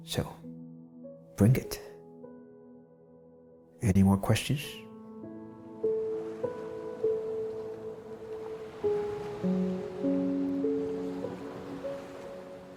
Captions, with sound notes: So, bring it, any more questions? (gentle music continues) (water rippling)